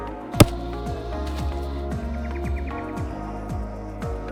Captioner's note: nut cracks